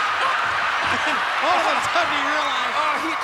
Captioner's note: laughs